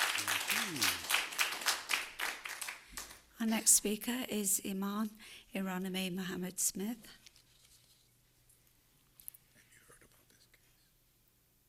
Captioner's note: applause